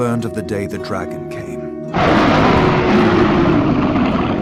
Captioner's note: roar